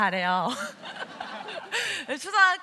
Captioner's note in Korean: 웃음